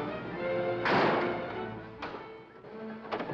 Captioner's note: whimsical music; bang